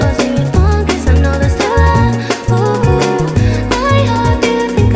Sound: ooh, ooh

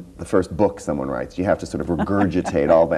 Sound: laughs

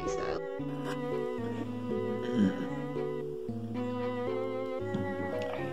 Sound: burping

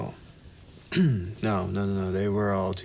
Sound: coughs

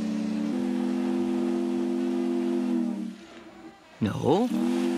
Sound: ship's horn blows

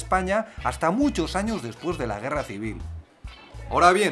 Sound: spanish

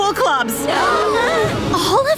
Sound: gasps

